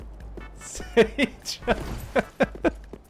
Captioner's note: laughs